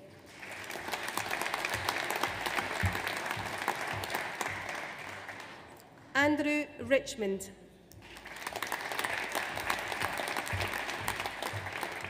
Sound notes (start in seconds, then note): 0.1 audience applauds; 8.0 audience applauds